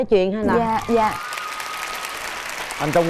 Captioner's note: applause